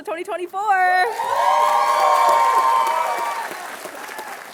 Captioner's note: applause